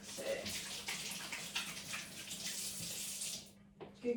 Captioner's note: tap running